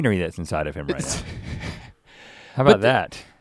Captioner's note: Link chuckles